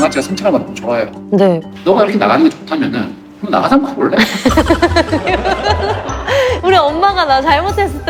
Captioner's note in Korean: 농담과 웃음